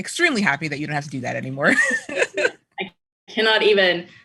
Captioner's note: laughter